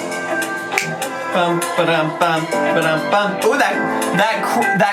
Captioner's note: making music sound effects